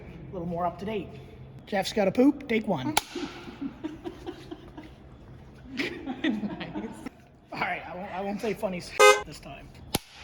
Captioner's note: laughter